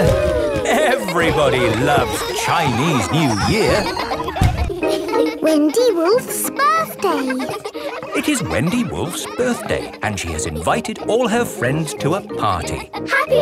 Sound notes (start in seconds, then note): 3.1 laughter; 7.9 kids laughing